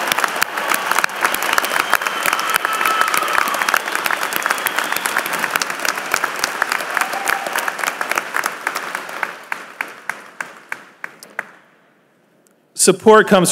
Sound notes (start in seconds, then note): 3.8 applause